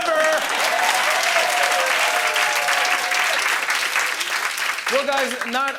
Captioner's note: cheering and applause